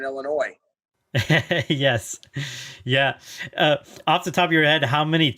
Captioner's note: laughs